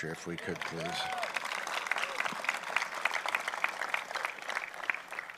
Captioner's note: applause